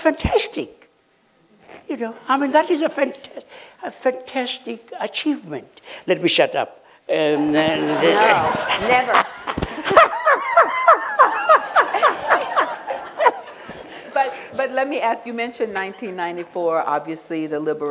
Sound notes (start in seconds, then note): 9.3 laughter